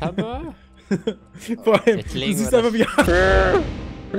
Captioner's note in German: uaah